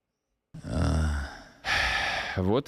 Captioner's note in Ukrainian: вдихає; стогне; видихає